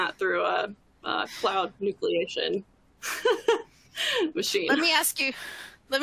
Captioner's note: laughs